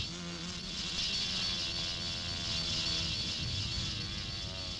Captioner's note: wasps buzzing